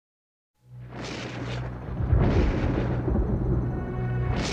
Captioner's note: guntur menggelegar